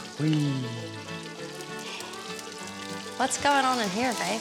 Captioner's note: yawning